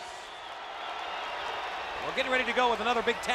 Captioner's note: crowd cheering